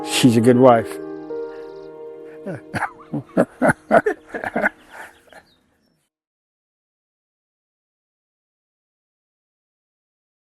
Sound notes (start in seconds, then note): 1.6 gentle music continues; 2.4 laughing